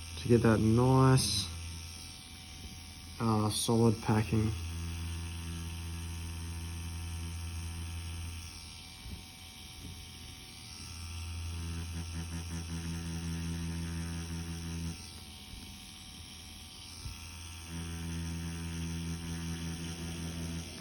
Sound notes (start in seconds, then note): 4.9 machine whirring